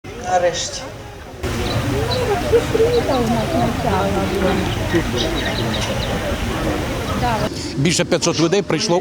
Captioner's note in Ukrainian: співають пташки, розмовляють люди